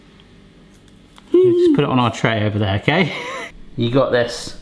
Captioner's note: laughs